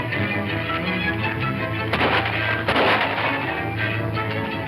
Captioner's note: guns firing